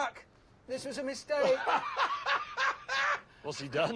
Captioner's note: jeremy guffaws